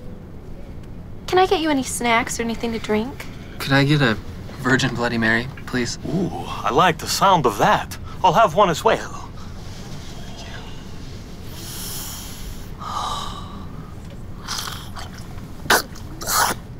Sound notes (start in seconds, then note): 11.4 sniffs; 15.6 gags